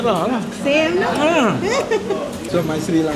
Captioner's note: laugh